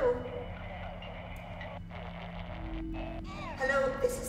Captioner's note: static buzzing